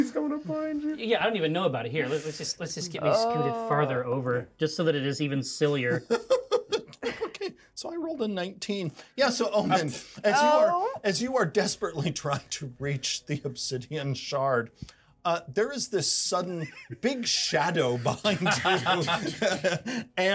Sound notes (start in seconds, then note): 5.9 speaker laughs; 12.4 chuckles; 16.3 speaker chuckles; 18.0 laughs